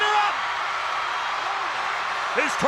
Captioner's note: crowd cheering